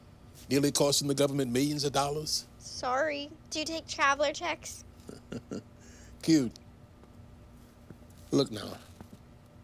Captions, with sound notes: Nearly costing the government millions of dollars. Sorry. Do you take traveler checks? [laughs] Cute. Look now.